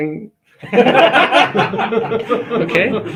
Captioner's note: laugh